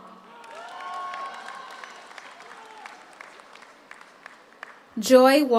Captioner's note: audience cheers; audience applauds